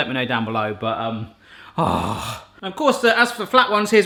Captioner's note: groans